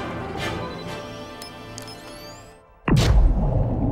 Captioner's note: device beeping; explosion booming